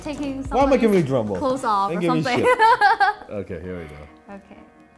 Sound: laughs

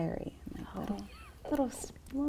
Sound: soft laugh

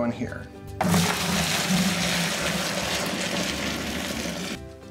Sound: running fluids

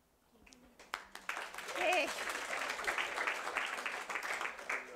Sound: audience applauding

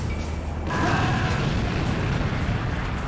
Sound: explosion

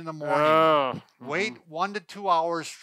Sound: groans

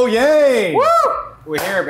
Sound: cheers

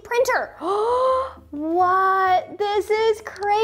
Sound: gasps

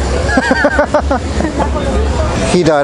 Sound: laughing

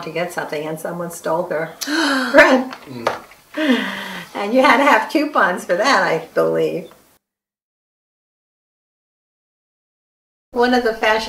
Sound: gasping

